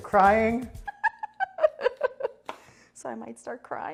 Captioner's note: laughing